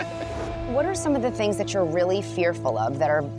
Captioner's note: laughter